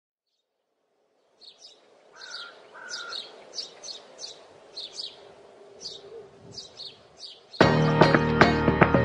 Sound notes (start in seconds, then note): 1.0 birds chirping